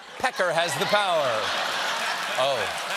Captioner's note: laughter